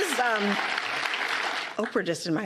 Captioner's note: applause